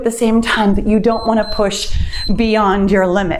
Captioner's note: timer beeps